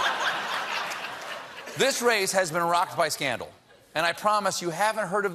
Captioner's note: laughter